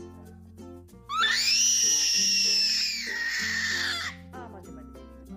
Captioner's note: baby sounds